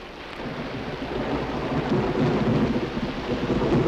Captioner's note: thunder rumbling